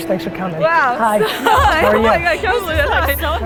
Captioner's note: laughs